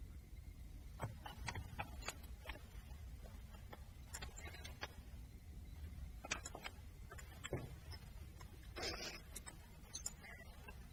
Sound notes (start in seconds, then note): 8.7 sniffling